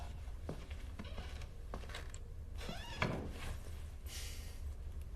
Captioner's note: la porta apre e si chiude; espira fortemente